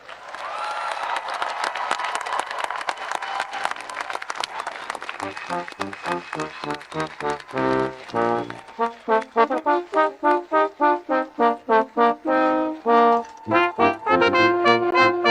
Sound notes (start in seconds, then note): 0.1 audience applauding and cheering; 6.3 ceremonious music; 13.1 audience cheering